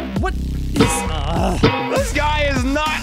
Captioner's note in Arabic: آهات